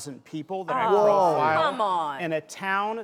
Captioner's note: collective whoa